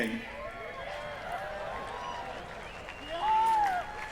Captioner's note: cheering